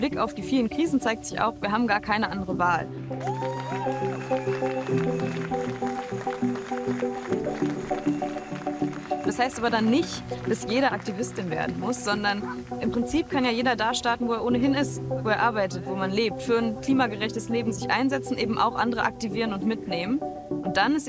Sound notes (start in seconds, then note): 3.2 cheers; 5.5 applause